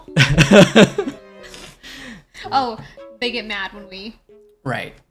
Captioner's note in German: lacht